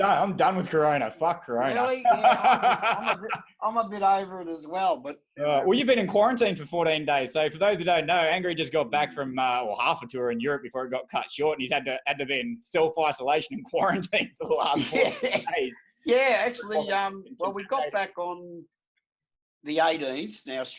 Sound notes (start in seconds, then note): 1.8 laughing